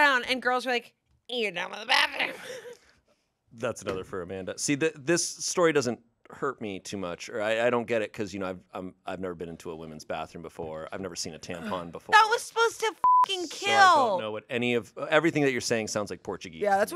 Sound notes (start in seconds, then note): 3.0 laughs; 13.0 beep